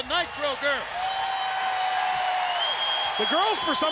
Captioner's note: crowd cheering